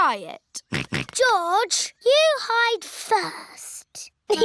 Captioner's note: snorts; chuckles